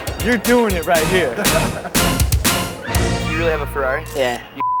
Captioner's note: laughing